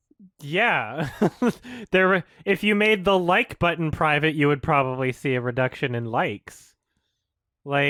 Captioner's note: chuckle